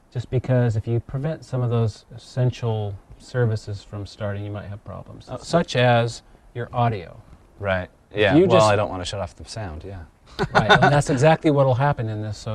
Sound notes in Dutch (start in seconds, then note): 10.3 gniffelt